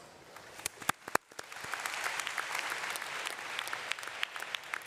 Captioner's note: audience applauds